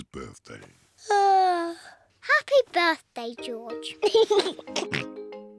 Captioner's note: yawns; laughs and oinks